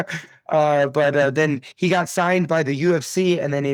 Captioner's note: laughs